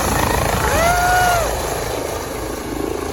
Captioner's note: wind blowing